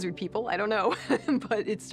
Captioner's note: laughs